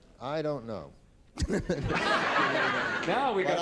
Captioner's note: laughter